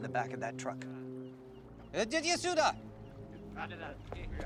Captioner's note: speaks Russian